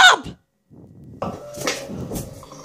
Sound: slap

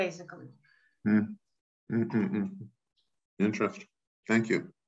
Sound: gruntles

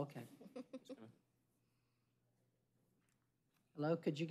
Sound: speaking spanish

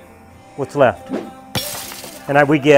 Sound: wood crashes

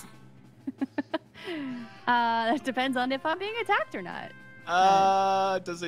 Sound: laughs

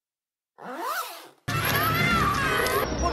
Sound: unzipping pants; Padmé screaming

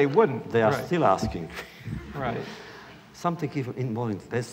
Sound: laughter

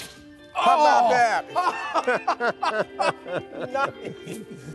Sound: laughs

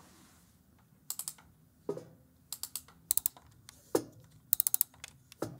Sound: more ratcheting

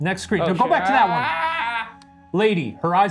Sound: yells

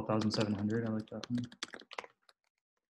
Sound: typing

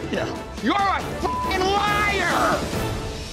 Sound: beeping; dramatic music

